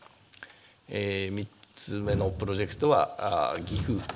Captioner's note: speaking japanese